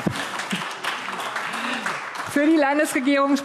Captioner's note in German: Beifall AfD